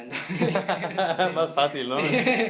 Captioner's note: laughing like a Mexican